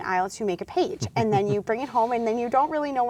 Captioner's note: laughs